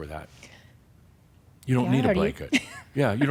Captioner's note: she chuckles